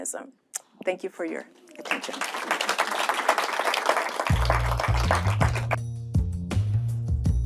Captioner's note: applause